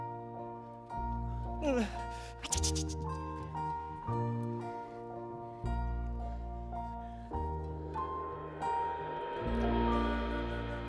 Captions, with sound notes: (Bert groans) Tsh-tsh-tsh-tsh-tsh! (gentle music) (cymbal shimmers)